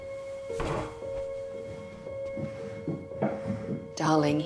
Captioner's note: drawer opening